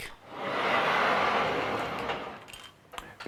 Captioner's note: grinding noise